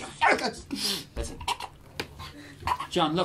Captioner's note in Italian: soffoca